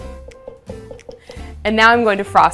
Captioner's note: spatula thudding